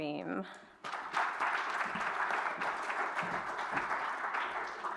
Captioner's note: applause